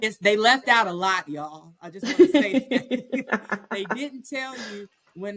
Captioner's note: laughter